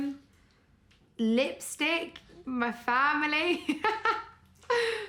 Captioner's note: laughing